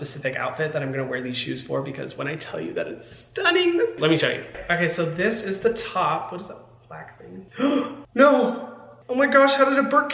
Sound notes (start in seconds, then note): 7.5 Hyram gasping